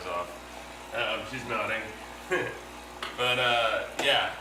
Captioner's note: chuckles